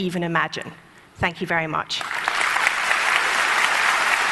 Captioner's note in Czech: Potlesk